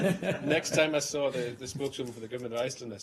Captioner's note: laughter